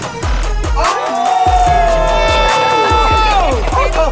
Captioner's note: cheering